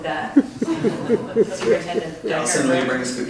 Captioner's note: all laugh